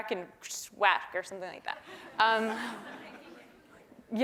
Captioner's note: laugh